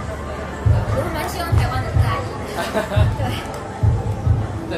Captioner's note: laughs